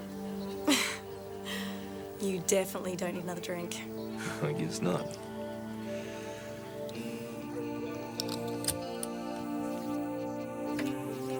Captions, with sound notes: (Jodie laughs) - You definitely don't need another drink. - I guess not. (laughs) (soft instrumental music)